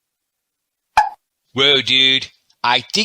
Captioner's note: alien pops